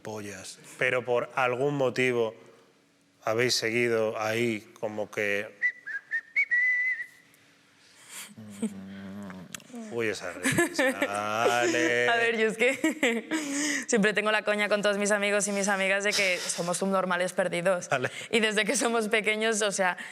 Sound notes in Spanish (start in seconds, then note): 5.6 silba despreocupado